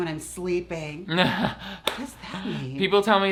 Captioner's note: laughs